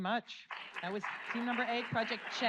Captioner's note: audience applauds